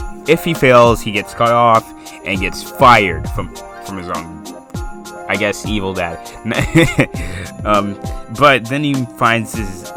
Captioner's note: laughs